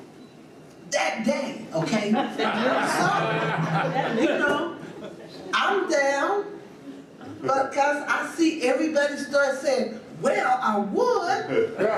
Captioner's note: audience laughs hard